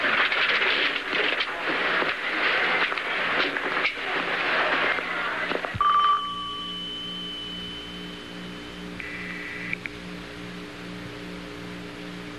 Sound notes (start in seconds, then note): 5.8 rings; 8.5 line Ringing